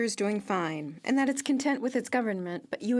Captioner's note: speaking French